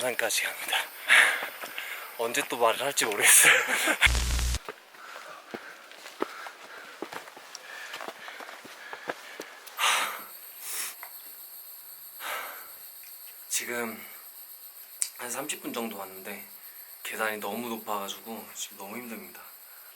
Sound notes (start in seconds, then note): 3.2 haha